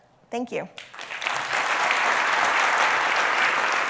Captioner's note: applause